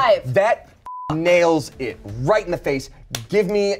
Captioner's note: beep